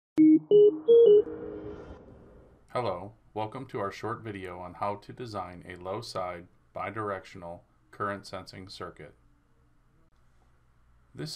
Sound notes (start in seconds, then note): 0.2 beeping